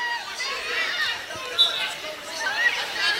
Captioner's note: whistling